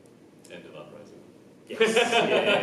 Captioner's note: laughs